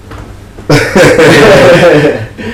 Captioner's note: laughing